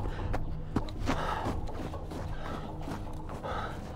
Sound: person breathing

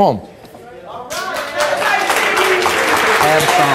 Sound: applause

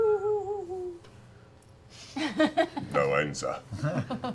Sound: laughing

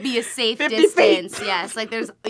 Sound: laughs

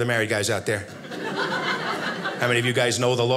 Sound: audience laughing

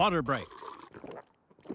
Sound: people gulping; water pouring

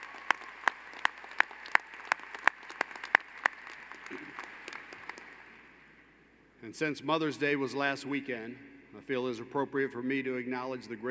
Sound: applause

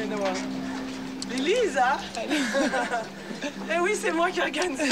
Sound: laughing

